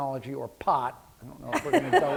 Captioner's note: laughter